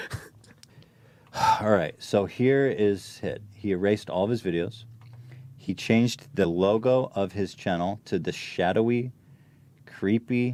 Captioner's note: sigh